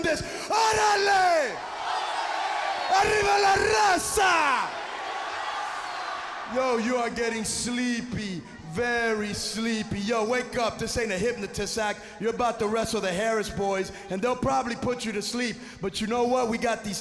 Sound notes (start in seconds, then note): 0.0 speaking in foreign language; 2.5 crowd chatter; 6.0 crowd chatter